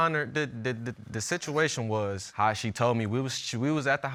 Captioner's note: stammers